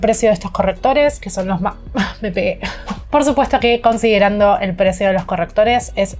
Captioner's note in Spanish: risas